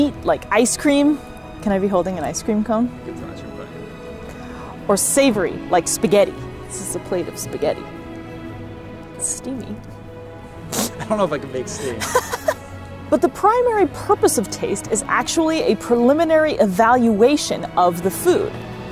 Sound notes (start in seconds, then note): 8.0 background music; 11.7 laughs